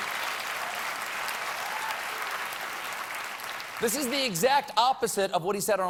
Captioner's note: applause